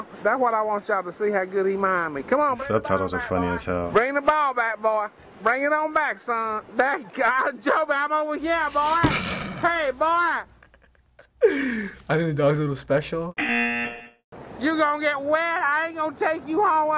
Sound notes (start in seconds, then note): 8.6 laughing; 9.0 snickers; 13.4 buzzer